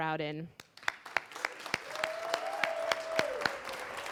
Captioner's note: applause